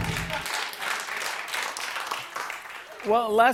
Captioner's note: applause